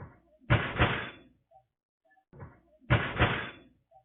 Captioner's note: metal clanging